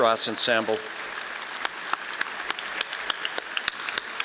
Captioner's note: audience applauding